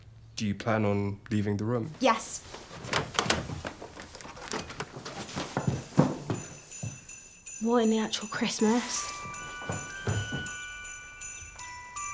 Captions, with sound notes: - Do you plan on leaving the room? - Yes. (door clicking) (Christmas bells ringing) What in the actual Christmas. (festive music)